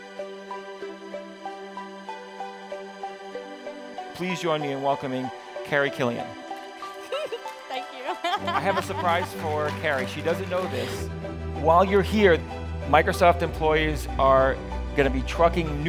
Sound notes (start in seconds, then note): 6.9 laughs